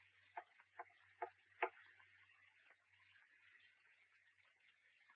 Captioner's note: cane taps lightly